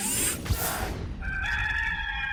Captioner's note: logo swishing; cock crowing